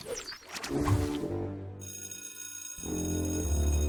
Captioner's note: school bell rings